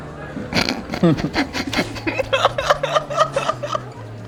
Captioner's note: chortling